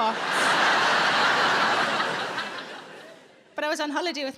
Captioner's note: audience laughing